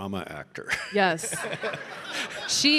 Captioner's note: audience laughing; laughs